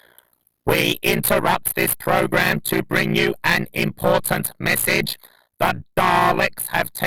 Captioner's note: dalek voice